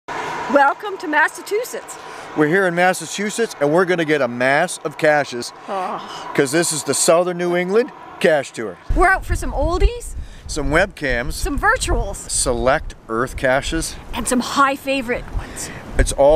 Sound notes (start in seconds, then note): 5.4 groan